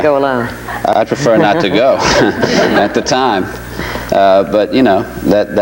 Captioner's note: chuckles